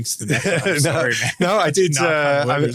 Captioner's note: laughter